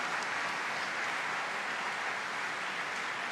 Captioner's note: applause